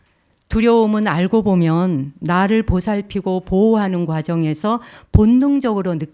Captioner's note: speaking in Korean